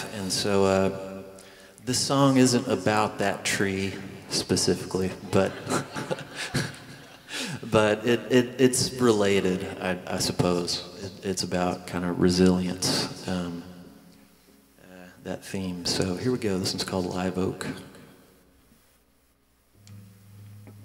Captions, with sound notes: And so this song isn't about that tree specifically, but... (laughing) But it's related, I suppose. It's about kind of resilience, that theme. So here we go. This one's called "Live Oak."